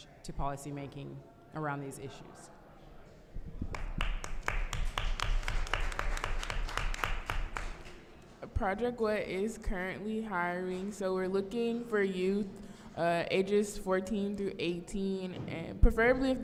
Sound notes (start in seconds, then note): 3.6 applause